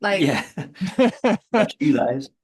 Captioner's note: laughter